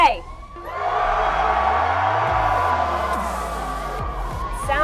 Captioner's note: crowd Cheering